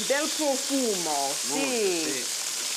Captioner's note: speaking Italian